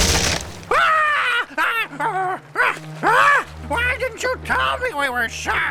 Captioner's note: ਰੁਪਰਟ ਚੀਕਦਾ ਹੋਇਆ